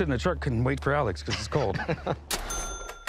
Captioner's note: laughter